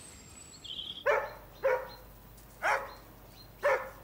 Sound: dog barking

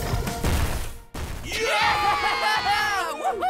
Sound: cheering

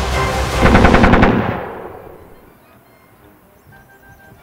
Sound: gun fires

